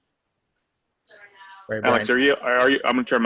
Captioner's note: background conversation